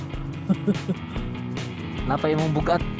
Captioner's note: laughing